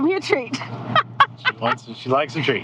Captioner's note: laughing